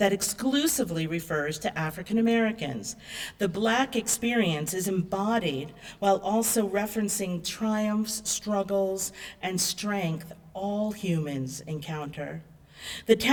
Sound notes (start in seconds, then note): none